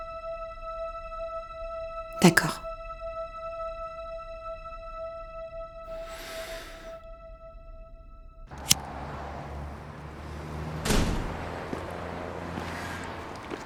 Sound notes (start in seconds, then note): 2.3 tense music; 10.4 door slams